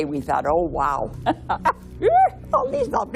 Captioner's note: squeal